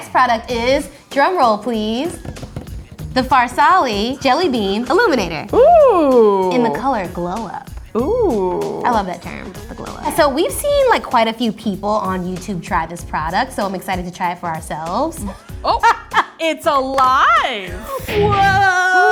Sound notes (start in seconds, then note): 1.6 tapping; 15.2 laughing